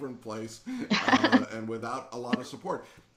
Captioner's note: both laughing